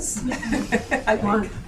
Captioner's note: laughs